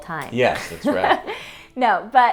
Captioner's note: laughs